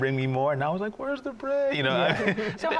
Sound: chuckles

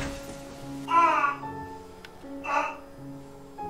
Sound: mysterious sounds of moaning

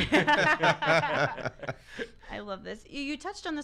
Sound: laughs

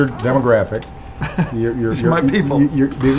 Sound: chuckles

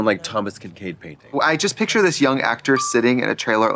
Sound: pause chime dinging

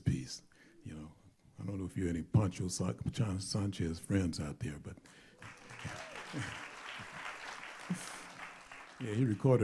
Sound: applause

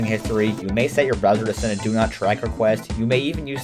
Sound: French

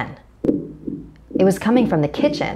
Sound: eerie knocking

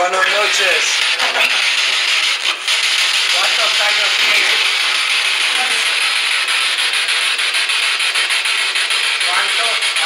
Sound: loud static

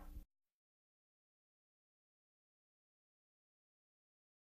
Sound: silence

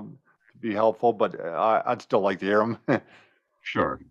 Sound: laughs

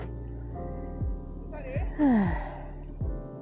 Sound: sighs

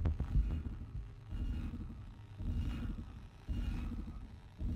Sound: radio transmission whirs

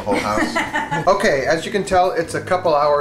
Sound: laughing

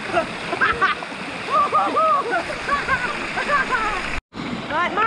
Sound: laughing and whooping

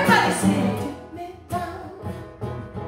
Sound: quietly

